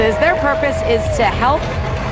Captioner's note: crowd cheering